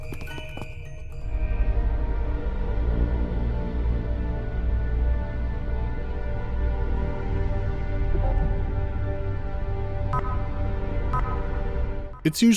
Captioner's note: deep electronic hum with distant horns